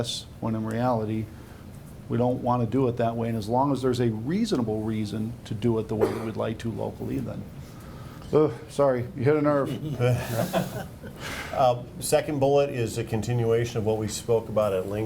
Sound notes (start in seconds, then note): 9.7 laughing